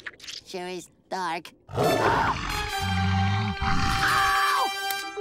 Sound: gasping, screaming

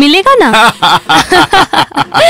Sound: laughs

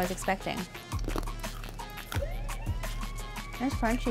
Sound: crunches

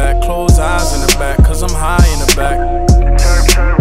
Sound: chirp, chirp

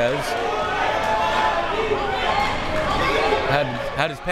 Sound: crowd members shouting

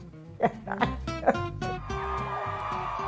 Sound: laughs; crowd cheering

